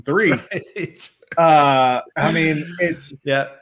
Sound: laughs

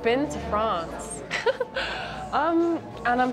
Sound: chuckles

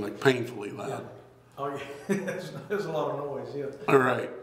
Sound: laughs

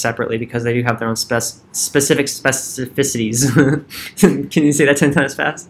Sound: chuckles

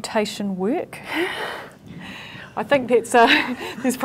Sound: laughs

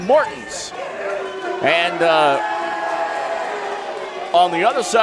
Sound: crowd cheering

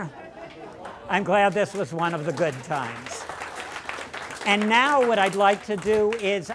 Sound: applause

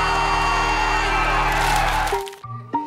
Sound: cheering

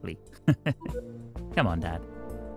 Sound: laughs

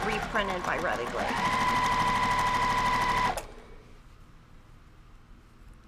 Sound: sewing machine humming

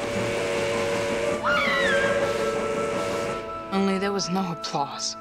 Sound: screaming

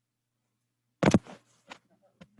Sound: rattling

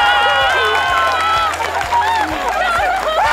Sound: cheering

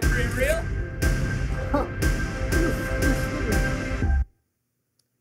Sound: chuckles

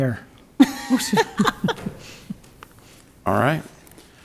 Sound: woman laughing

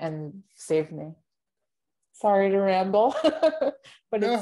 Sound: chuckles

